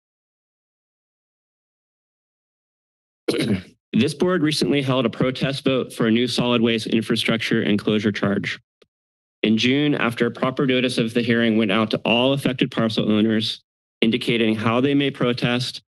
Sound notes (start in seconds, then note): 3.3 clears throat